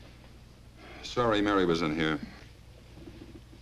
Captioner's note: sighs